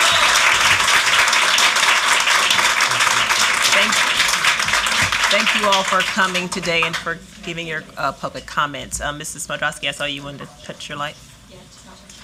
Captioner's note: applause